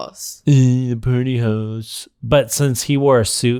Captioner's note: mockingly